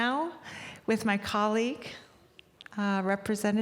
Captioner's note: none